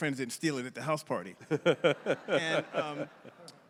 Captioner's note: laughs